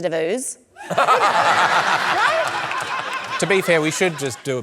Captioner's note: laughter